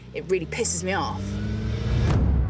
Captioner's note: engine roaring